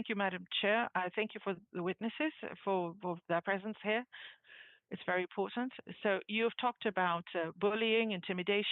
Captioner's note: speaking French